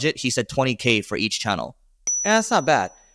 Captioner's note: bell chimes